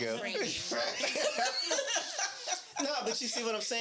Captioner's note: laughing